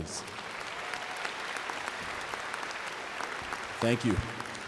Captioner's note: applause